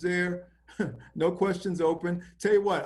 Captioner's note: chuckles